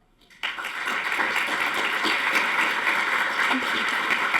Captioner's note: audience applauding